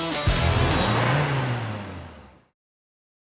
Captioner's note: upbeat music; engine revving